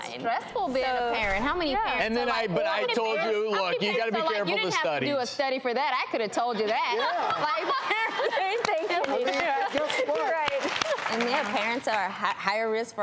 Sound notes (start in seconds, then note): 6.6 laughing; 8.4 clapping